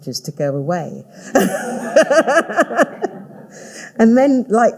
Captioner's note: all laughing